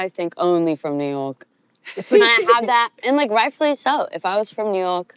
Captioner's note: mimics new york accent